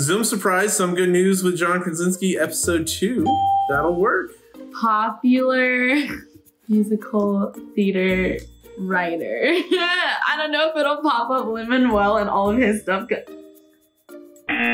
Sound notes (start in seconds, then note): 3.2 bell rings; 9.7 laughs